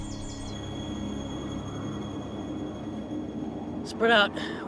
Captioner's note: birds chirping; wind blowing